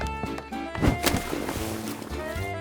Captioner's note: splash